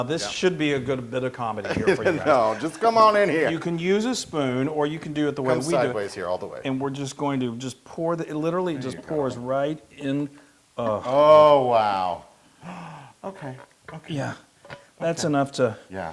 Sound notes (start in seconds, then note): 1.6 laugh